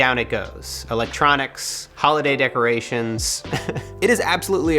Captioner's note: chuckles